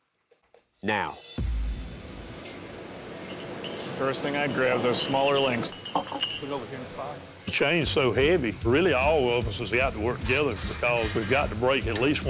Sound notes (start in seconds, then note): 5.0 steel clanks; 5.6 indistinct chattering